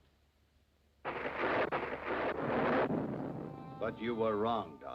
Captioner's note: thunder